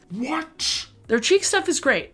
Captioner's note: deep voice changer